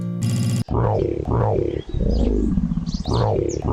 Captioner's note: lion growls